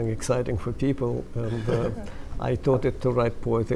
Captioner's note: laughter